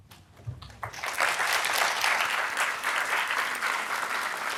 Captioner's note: applause